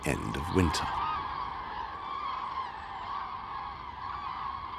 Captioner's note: birds cawing